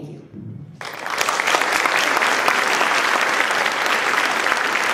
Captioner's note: applause